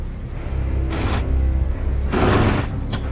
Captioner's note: snorting, snarling